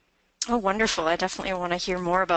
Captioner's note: voiceover